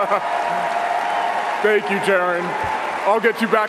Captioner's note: cheering and applause